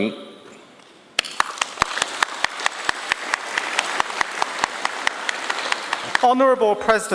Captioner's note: applause